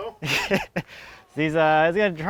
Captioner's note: laughing